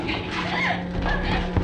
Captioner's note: screaming